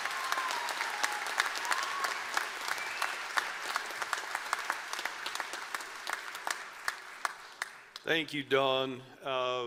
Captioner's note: applause